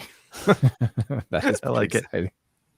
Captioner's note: both laughing